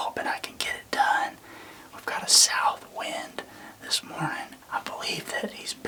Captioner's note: whispering